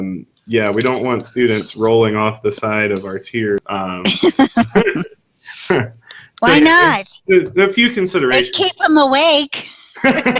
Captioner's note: laughing